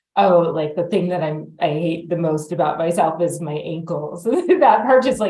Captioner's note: laughs